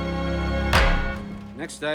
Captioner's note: thuds